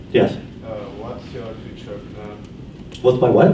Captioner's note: voiceover